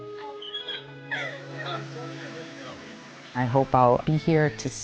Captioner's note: squealing